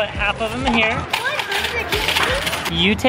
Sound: coins drop

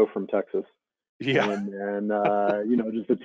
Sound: chuckles

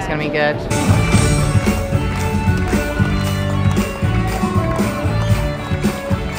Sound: upbeat music; audience clapping

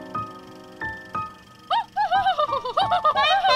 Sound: laughing; trumpeting laugh

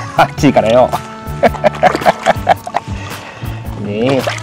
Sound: laughs

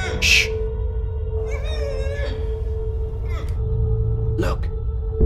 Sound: Jaymee grunting

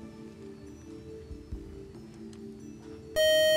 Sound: time-is-up buzzer

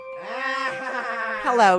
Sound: creepy laughter

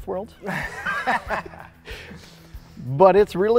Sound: laughing

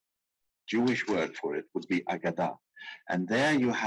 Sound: speaking in foreign language

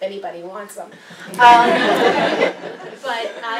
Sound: laugh

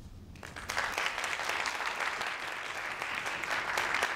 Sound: audience claps

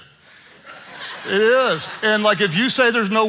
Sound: congregation laughing

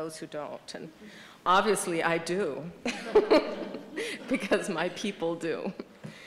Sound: laughter

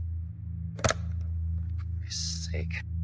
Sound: phone hang up

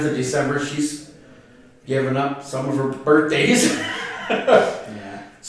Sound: laughter

